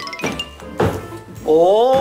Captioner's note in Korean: 쿵 / 쿵